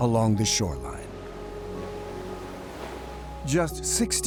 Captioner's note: waves crashing